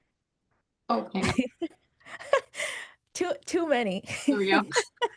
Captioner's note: chuckles